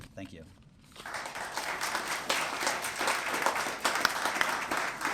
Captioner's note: applause